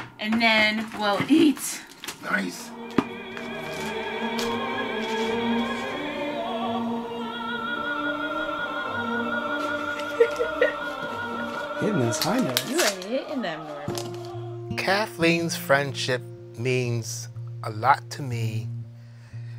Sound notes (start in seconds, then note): 3.2 opera music; 9.8 laughs